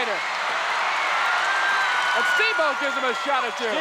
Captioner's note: audience cheers